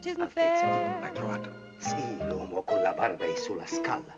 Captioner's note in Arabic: الصوت المنطوق بالإيطالية